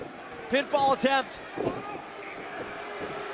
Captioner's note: crowd cheering